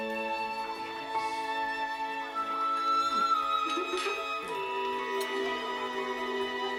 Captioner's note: indistinct chatter and laughing